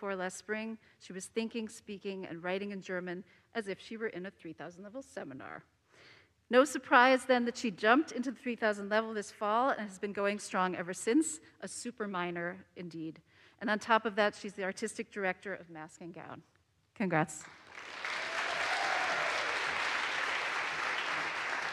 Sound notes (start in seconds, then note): 17.5 audience applauds